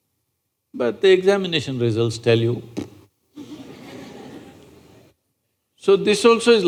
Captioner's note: laughter